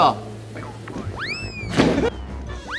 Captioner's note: قدم های محکم